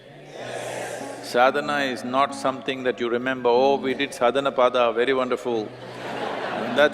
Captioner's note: laughter